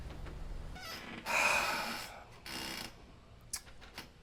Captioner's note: sighs loudly